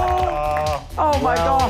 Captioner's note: clapping